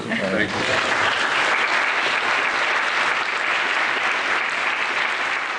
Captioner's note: applause